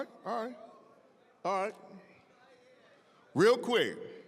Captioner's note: scattered chatter